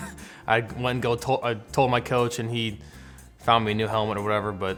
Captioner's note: laugh